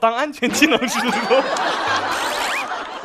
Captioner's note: laughed at himself